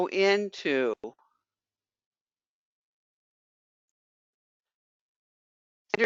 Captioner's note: 5 seconds pause